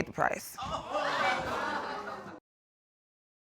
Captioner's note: laughter